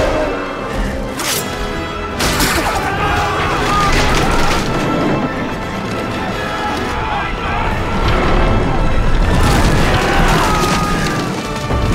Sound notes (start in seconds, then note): 0.1 roars; 2.5 group shouts; 9.7 crashes